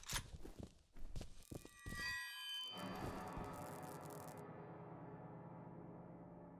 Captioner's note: ominous static crackle of the creepy child variety